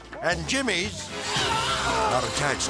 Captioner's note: screaming